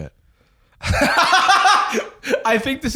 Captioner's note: laughing